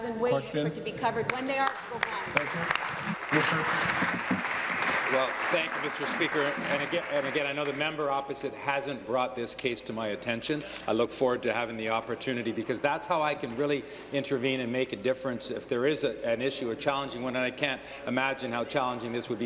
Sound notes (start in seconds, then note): 9.7 applause